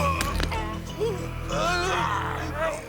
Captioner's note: growling